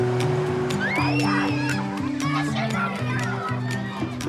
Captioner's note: children scream, chatter